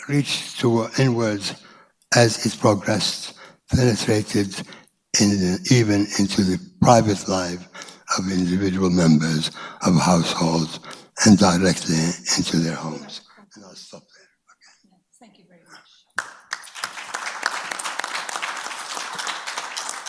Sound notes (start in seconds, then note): 14.0 speaks away from mic; 16.1 audience applauds